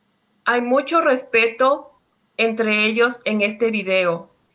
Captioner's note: speaking Spanish